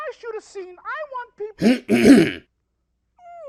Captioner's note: clears throat